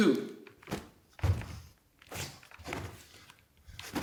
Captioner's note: snapping